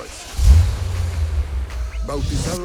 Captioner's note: engine revs